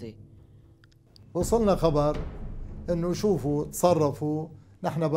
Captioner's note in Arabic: العربية، اللغة المنطوقة